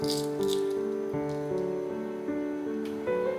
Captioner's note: crackle-crack